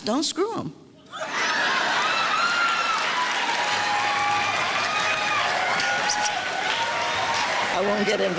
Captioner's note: clapping and cheering